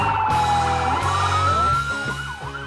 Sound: sirens wailing

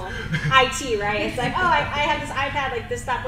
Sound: panel laughs

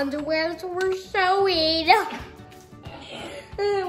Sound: laughs

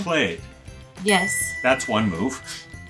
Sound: ding

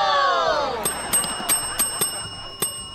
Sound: dinging

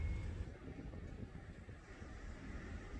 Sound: whirr whirr whirr

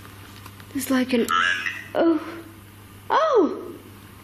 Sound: Ovilus buzzes

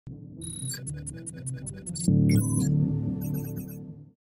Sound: computer noises

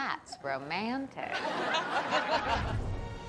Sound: laughter

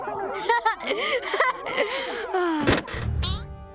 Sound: laughing

